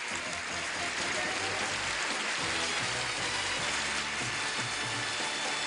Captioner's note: applause; gameshow music